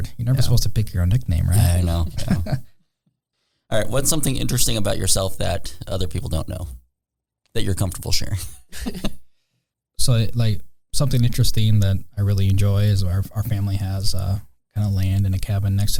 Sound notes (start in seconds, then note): 9.4 laughing